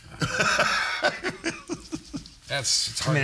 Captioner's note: all laughing